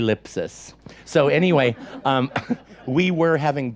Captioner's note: audience laughs